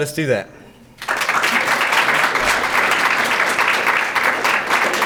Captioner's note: audience applauding